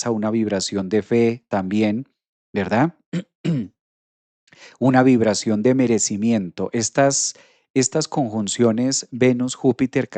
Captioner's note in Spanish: carraspeo